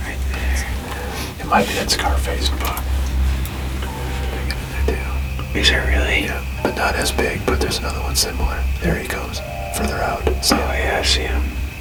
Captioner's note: whispered voices